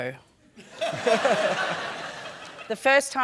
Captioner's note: laughter